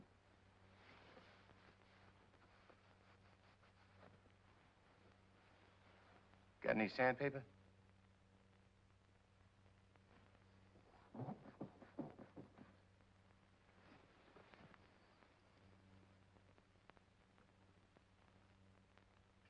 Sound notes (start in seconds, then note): 11.0 wall creaks